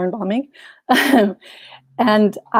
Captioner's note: chuckles